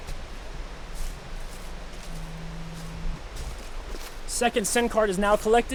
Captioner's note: footsteps crunching grass